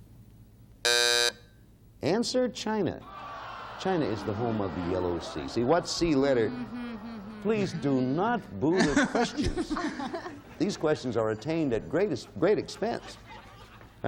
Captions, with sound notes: -(buzzer sounding off) -Answer, China. China is the home of the Yellow Sea. -(audience booing) -See, what C letter, please do not boo the questions. These questions are attained at great expense.